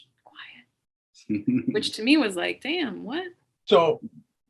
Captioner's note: shushes